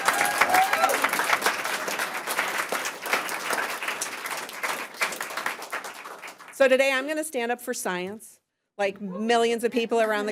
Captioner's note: applause